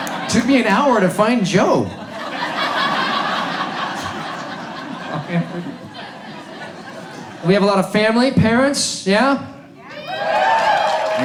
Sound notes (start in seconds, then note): 1.7 audience laughs; 10.0 audience cheers